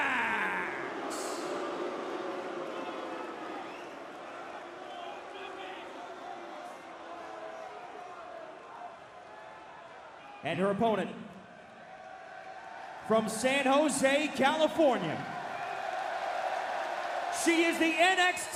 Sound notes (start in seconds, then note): 0.3 crowd cheering; 0.9 crowd chatter